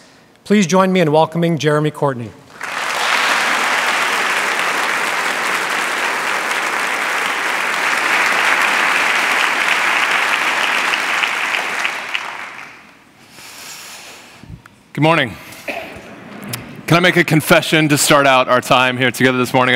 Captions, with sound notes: Please join me in welcoming Jeremy Courtney. (Applause) Good morning. Can I make a confession to start out our time here together this